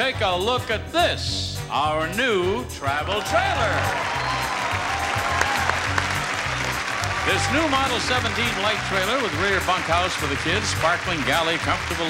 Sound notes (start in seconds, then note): 2.6 upbeat music; 3.1 audience cheering and applauding